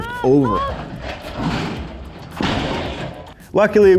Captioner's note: crashing